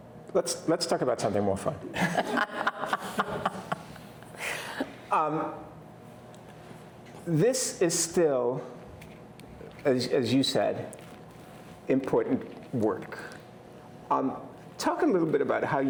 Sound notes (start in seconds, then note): 2.0 everyone laughing